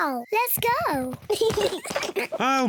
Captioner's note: kids giggle